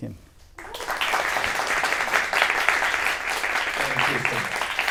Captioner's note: audience applauds